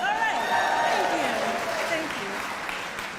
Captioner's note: audience cheers